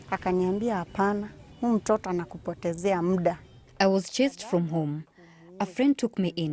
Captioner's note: speaking Swahili